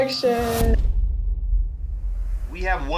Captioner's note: suction of wind and thump